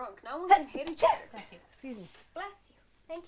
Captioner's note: sneezes